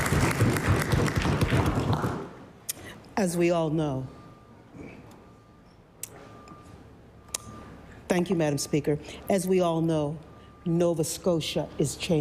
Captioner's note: applause